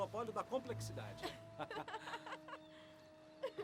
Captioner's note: Ruth laughs